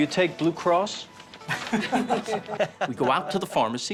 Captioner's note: laughing